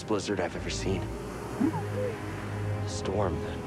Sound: boo-woo-woop

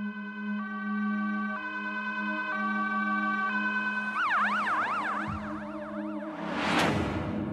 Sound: ambulance

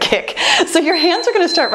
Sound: timer beeps

